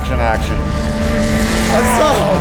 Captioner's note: car engine roaring; plane engine roaring